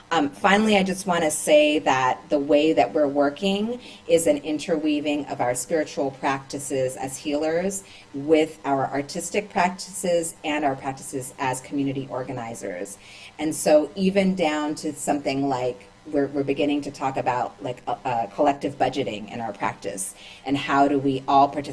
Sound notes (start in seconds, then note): none